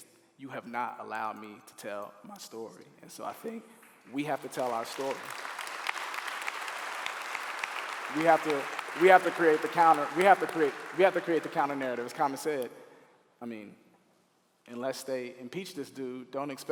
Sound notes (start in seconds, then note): 5.3 clapping